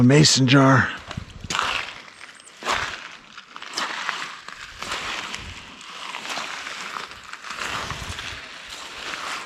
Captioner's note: leaves crunching